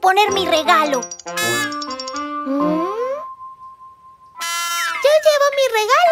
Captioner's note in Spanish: Sonido de bocina